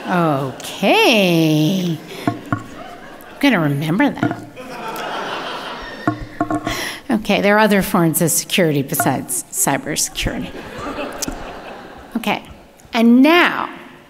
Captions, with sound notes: Okay, I'm gonna remember that. (audience laughing) Okay, there are other forms of security besides cybersecurity. Okay, and now,